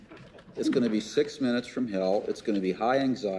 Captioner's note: crowd laughs